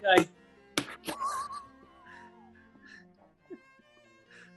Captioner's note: sniggering